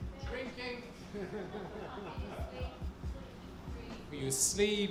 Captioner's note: audience laughs